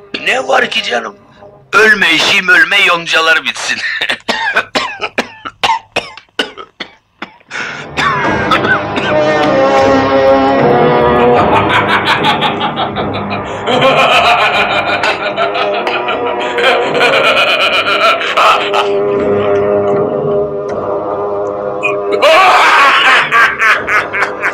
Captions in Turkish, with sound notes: Ne var ki canım, ölme eşeğim ölme, yoncalar bitsin! [Öksürükler] [Gardiyanların kahkahaları] [Kahkahalar]